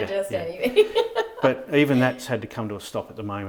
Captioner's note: laughing